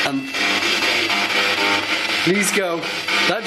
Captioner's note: voice On Radio